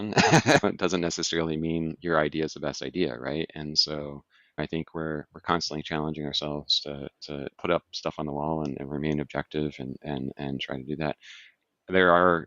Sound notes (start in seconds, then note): 0.0 laughs; 4.6 sighs